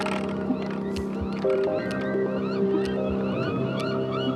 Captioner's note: gulls cawing